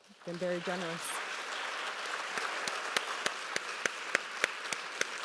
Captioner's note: applause